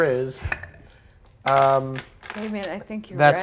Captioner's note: die rolls